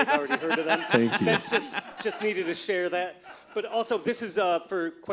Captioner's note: laughter